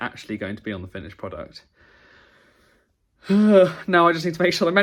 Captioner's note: sighs